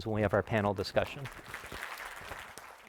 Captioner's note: applause